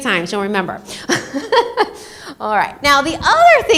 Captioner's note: laughs